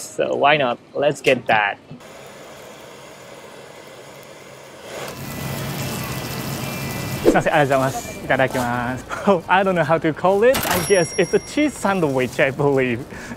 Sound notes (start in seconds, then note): 2.0 blowtorch hissing; 4.7 sizzling